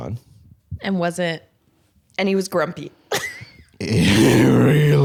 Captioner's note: laughs